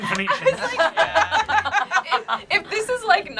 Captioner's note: group laughs